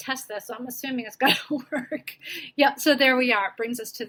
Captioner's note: laugh